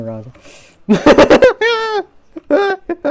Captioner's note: laughs